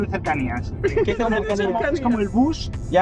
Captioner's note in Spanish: Risas